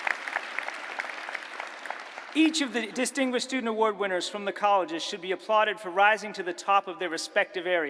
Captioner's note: applause